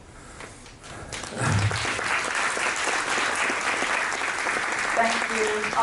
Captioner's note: cheers and applauses